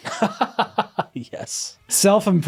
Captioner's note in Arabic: يضحك